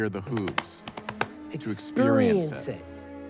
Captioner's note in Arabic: صوت حوافر الحصان